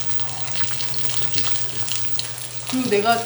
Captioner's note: boiling…